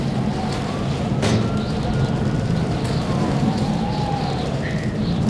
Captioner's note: siren wailing in the distance